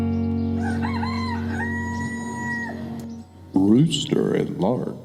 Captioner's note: rooster crows